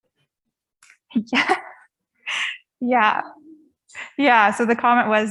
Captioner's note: chuckles